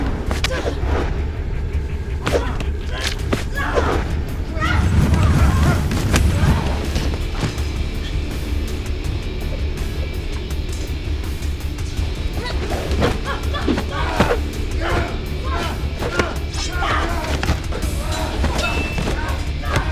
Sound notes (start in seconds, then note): 3.0 bone crunching; 12.3 Gabriella grunts; 17.2 thudding